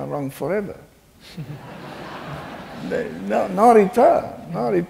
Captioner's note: laughing